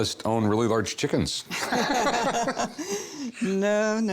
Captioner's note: laughter